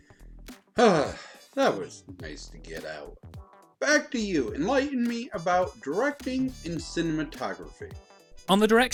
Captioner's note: sigh